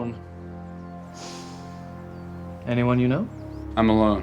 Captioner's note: sniffing